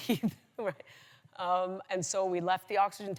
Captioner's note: laughs